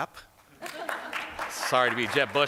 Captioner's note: applause